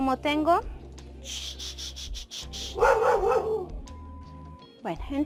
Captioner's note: dog barking